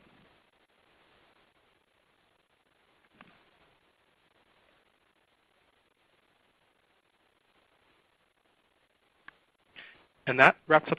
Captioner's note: silence